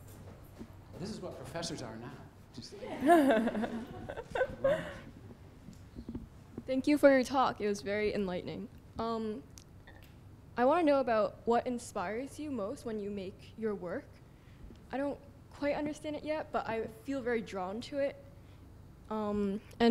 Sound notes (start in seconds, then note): 2.8 laughter; 6.8 voiceover